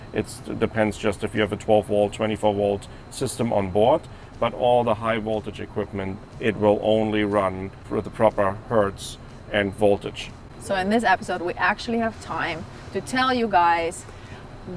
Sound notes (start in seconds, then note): none